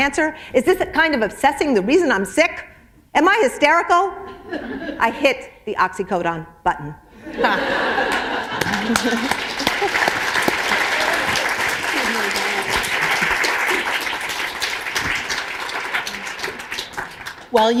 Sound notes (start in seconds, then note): 9.2 laughter; 12.0 applause